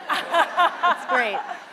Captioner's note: laughter